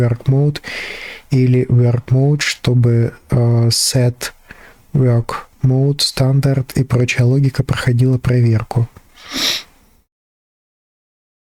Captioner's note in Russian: фыркает